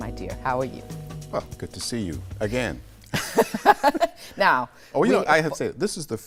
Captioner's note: laughter